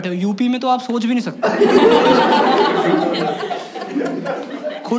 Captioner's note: laughs